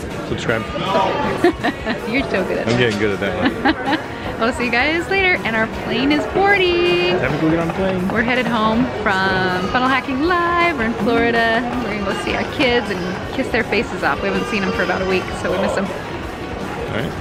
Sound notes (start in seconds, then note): 1.8 laughs